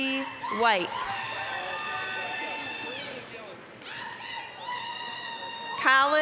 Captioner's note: applause, cheering